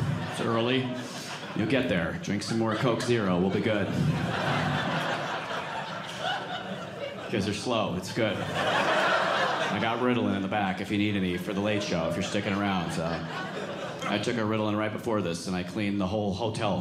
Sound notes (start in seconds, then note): 4.9 audience laughing; 8.6 audience laughing